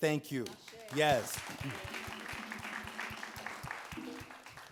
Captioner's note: audience claps